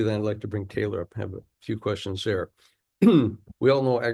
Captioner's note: clears throat